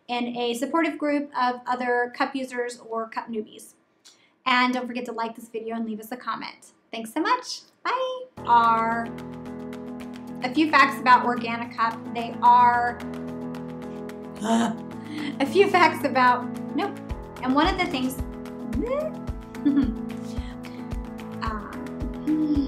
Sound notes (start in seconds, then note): 12.5 grunting; 19.4 whooping; 22.2 sighing